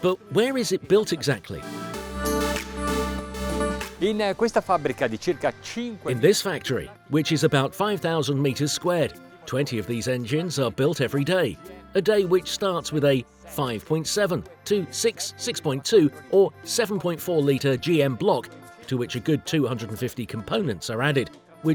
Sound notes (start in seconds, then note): 1.4 dance music; 4.1 speaking foreign language